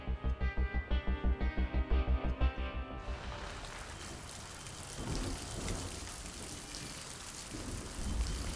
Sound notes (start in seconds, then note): 3.0 raining